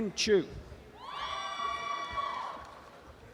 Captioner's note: applause and cheering